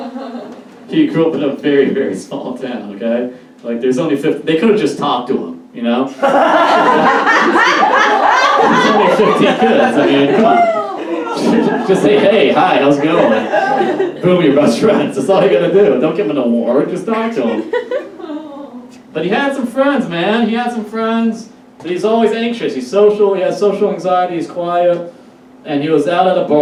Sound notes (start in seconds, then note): 6.2 audience Laughs